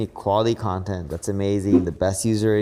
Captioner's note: graphics whooshing